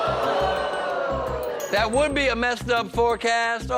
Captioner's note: audience groans